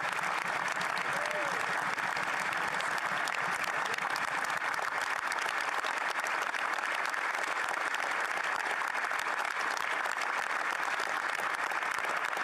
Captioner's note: applause